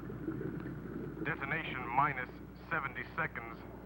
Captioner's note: man On Radio